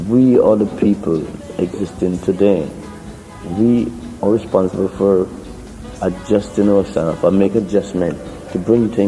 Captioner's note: slowly speaking